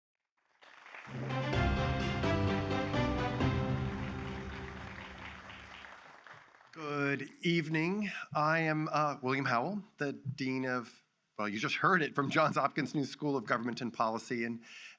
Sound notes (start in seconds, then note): 0.5 audience applauds; 1.1 grand music